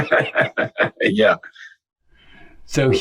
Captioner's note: laughs